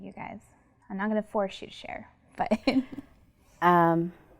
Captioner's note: laughs